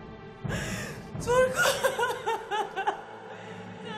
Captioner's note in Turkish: Ağlama sesi